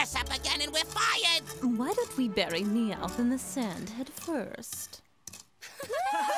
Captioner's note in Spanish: risas